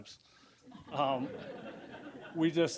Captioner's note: audience laughing